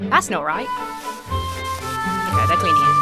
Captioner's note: lighthearted music; sponge swishing